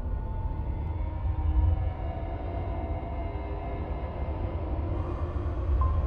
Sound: ominous hum gets louder

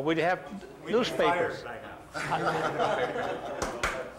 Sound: laughter

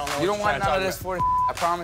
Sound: beep

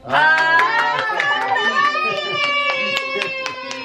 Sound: cheering

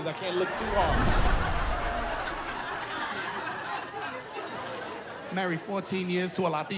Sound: laughter

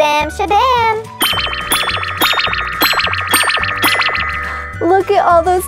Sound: magical popping

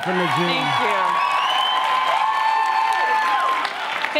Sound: loud cheers and applause

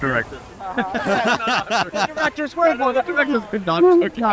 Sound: laughing

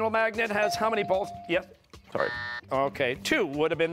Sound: buzzer

